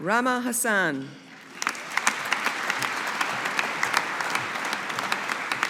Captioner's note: audience applauding